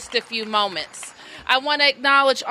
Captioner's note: applause